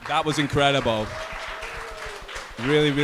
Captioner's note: audience applauding